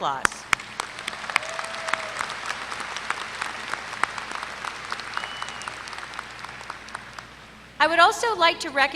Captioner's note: applause